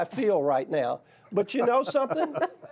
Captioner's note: laughter